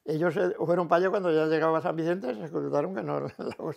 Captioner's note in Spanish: ríe